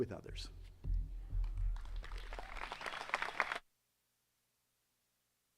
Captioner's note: attendees clapping